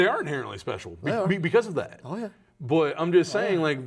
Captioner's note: laughs